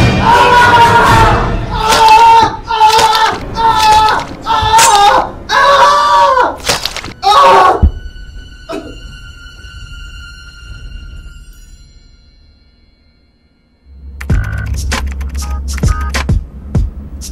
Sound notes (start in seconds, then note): 0.3 dramatic music; 1.7 Daniel screaming; 14.2 upbeat music